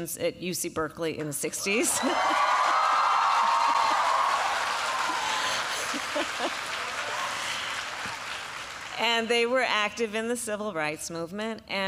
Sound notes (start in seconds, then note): 1.8 applause